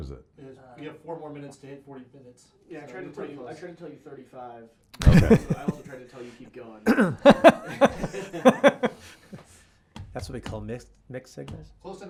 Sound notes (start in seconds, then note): 5.0 laughs; 6.8 laughing